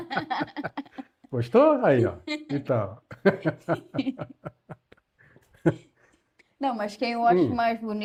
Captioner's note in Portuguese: risadas; risadas